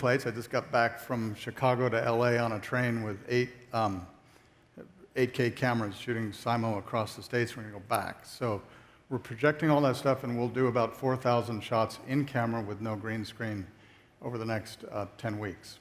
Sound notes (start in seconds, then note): none